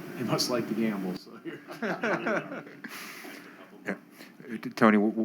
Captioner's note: laughter